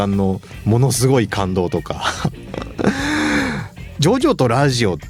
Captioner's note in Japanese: 息をのむ音